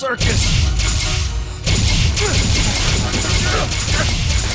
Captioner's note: blasting